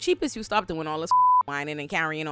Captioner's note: beep